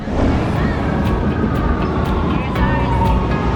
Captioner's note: train whooshing